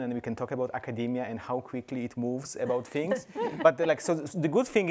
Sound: panelists laugh

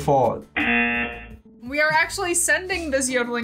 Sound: buzzer

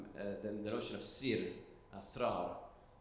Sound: speaking foreign language

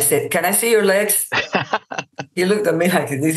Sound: laughs

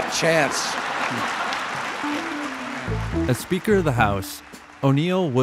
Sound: crowd laughs

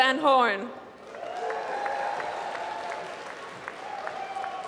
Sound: applause

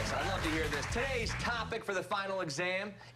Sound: cheers and applause

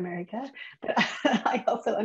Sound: chuckles

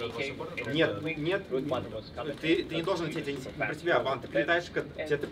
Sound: speaking in Russian

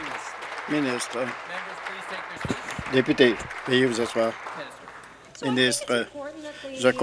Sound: applause

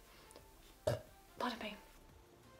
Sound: little burp

